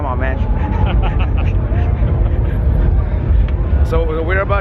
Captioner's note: laughter